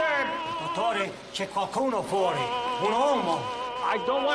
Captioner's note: speaking foreign language